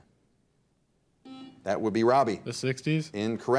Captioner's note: buzzer dings